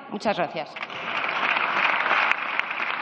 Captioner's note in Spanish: Aplausos